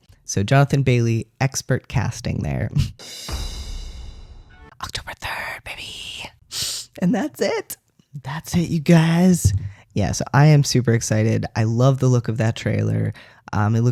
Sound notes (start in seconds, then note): 4.7 whispers; 6.5 sniff